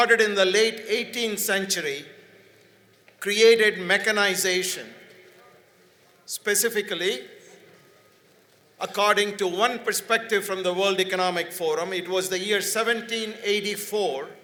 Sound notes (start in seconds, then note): none